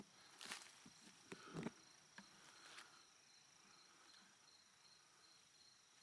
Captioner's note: breathing heavily